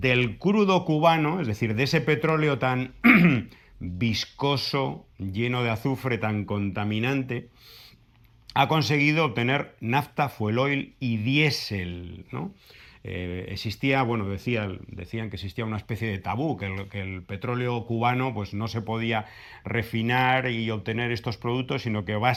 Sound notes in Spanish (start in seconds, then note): 3.0 carraspeo